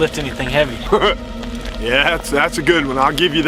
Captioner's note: laughs